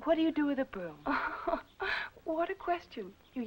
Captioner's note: laughing